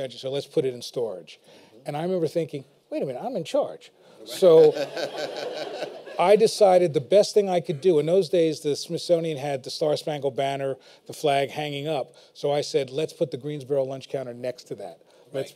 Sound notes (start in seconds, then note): 4.4 laughter